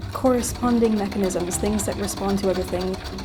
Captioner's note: wheels clacking